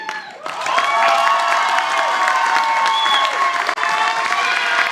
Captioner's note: audience applauding